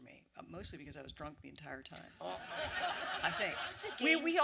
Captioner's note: audience laughter